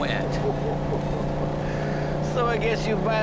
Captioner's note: Joe chuckling